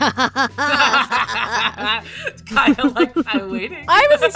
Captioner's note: EVERYONE laughs; giggles